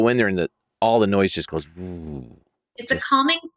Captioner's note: imitates noise dying down